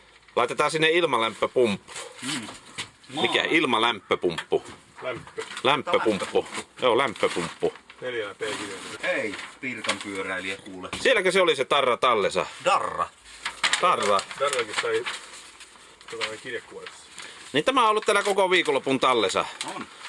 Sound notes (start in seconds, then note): 4.8 guys joking in Finnish, can't translate